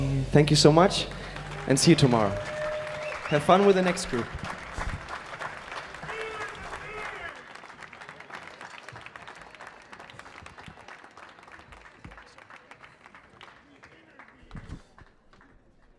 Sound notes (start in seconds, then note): 4.9 audience clapping; 6.0 muffled audience shouting